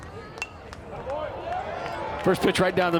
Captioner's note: bat dings